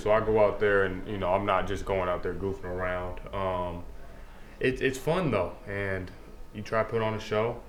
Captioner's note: none